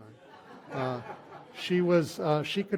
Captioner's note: laughter